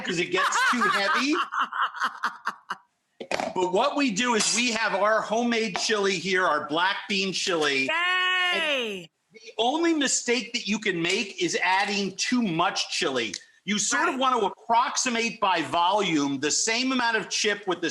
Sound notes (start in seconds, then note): 0.0 laughing